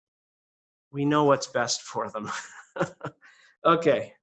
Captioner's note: laughs